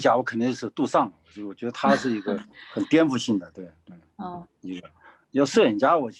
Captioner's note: speaking in foreign language